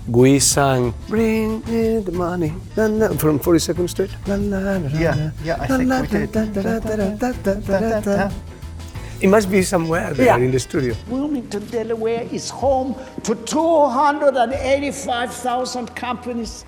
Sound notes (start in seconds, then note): 4.0 humming; 7.8 both humming